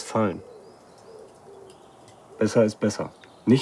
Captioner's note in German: Vogelgurren im Hintergrund